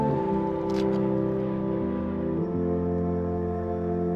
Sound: camera shutter snaps

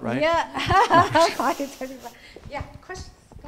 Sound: laughing

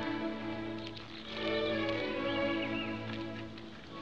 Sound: footsteps

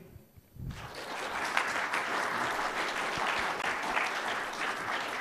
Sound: audience clapping

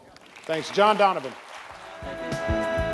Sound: audience applauds

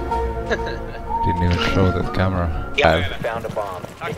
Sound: laughing

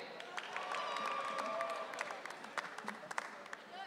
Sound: audience cheering

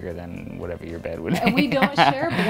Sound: laughs

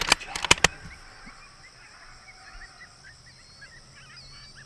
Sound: gun cocking; birds chirping

